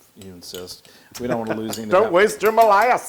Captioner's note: laugh